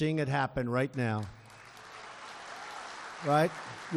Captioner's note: applause